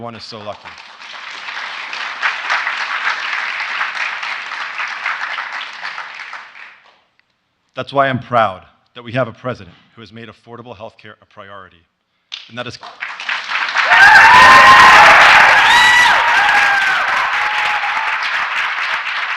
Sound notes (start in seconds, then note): 6.9 applause; 17.2 applause